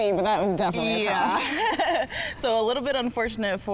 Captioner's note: laughs